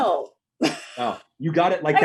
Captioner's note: laughs